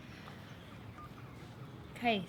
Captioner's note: phone beeps